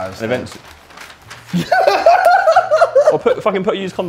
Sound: JJ laughing

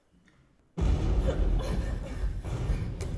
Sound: explosion

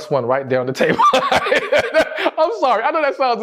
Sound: laughing

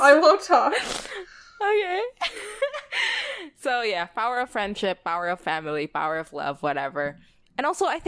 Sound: laughs

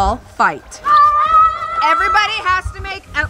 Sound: children yelling

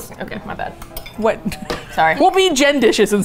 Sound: laughs

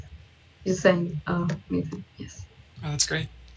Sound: faintly speaking

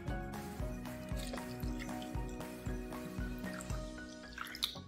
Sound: water pouring

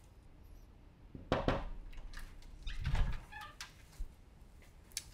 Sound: door knocking

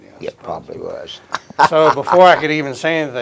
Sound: chuckles

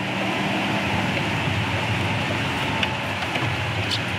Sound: engine rumbling

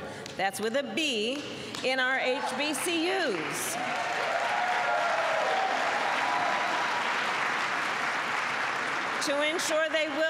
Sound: applause

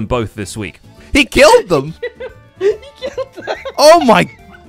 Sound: laughs

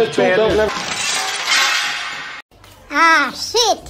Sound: something breaks

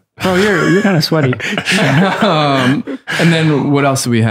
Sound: laughter

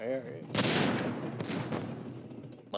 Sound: explosions

